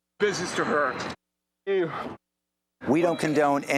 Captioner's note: muted; muted